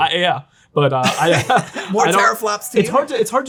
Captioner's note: laughing